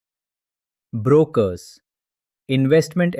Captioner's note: pause